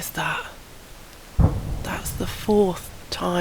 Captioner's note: boom